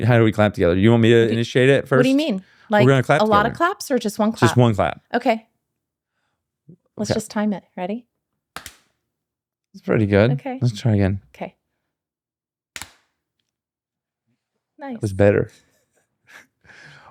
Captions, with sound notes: How do we clap together? You want me to initiate it first? What do you mean? Like a lot of claps or just one clap? Just one clap. Okay. Let's just time it, ready? (clap) It's pretty good. Okay. Let's try again. Okay. (clap) Nice. That was better. (laughs)